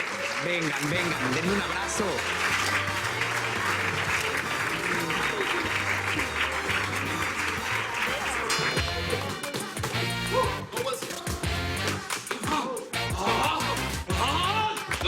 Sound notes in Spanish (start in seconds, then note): 1.9 Aplausos